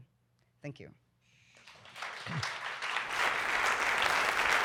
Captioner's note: applause